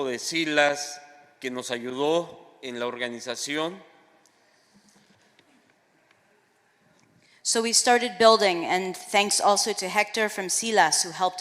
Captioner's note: speaking spanish